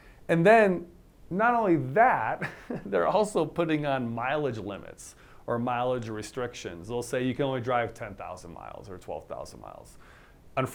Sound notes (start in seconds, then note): 2.4 laughter